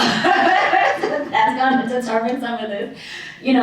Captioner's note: laughs